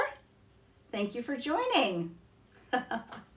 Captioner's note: laughs